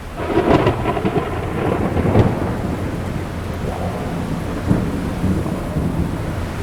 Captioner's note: crack of thunder, wind, weird sounds